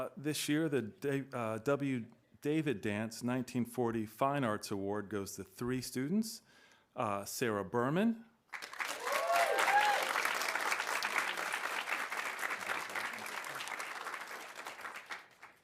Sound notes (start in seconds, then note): 8.5 audience applauding; 8.8 audience cheering